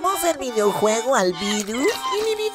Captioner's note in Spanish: Sonido de Mono